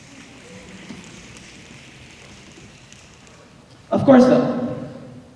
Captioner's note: snapping